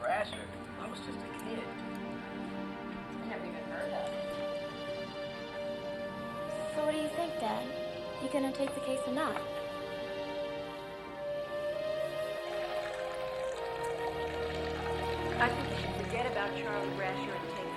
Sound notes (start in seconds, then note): 10.6 pensive music; 13.2 water sploshing and burbling